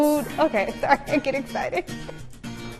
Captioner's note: laughing